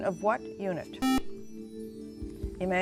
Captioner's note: buzzer